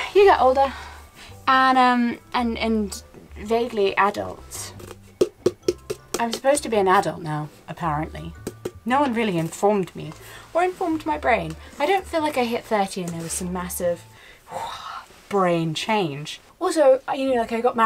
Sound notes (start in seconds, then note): 5.1 taps on container